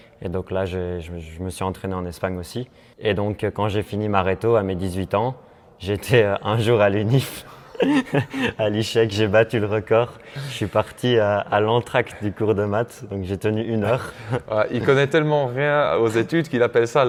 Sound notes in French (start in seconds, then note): 7.7 rires